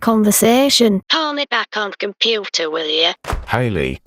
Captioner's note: phone hangs up